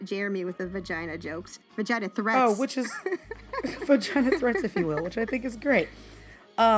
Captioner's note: laughter